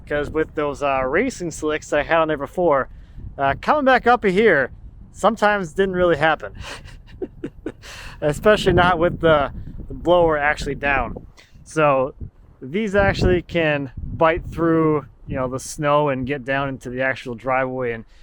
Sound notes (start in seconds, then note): 6.6 laughing